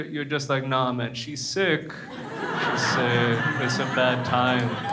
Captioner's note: crowd laughs